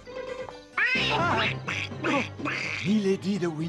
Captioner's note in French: bruits de canard